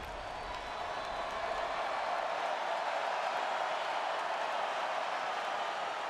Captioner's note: applause